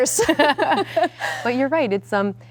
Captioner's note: laughing